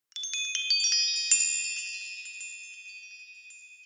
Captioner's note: bells chiming